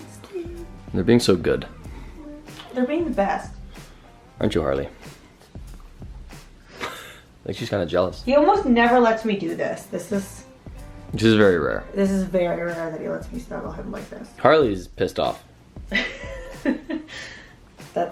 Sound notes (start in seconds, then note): 6.8 laughs; 15.8 laughs